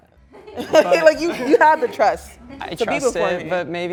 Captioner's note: chuckling